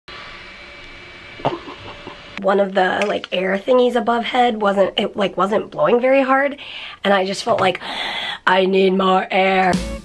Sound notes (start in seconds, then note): 0.0 fan whirring; 1.4 giggling